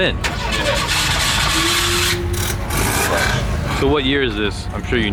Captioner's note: car engine revving up